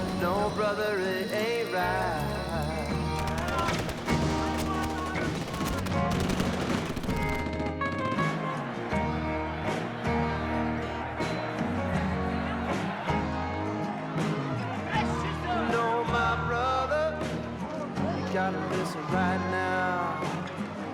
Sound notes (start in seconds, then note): 3.0 rapid gunshots popping; 9.3 crowd grumbling